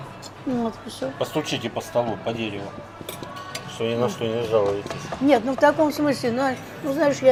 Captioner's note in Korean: 나무를 두드리며